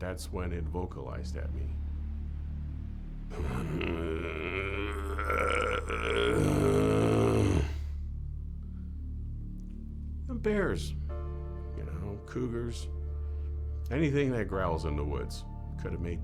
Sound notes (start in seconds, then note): 3.3 growling